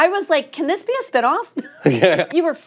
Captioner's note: laughter